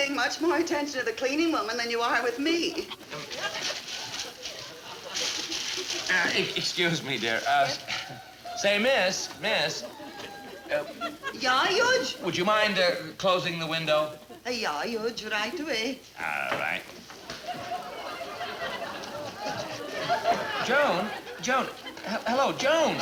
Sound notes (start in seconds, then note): 11.4 accented; 14.7 accented; 16.5 audience laughing